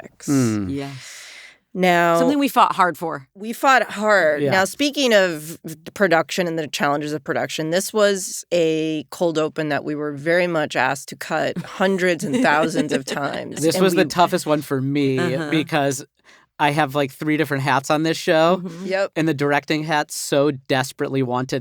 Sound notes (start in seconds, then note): 11.5 laughing